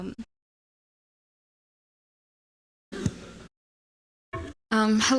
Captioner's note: audio out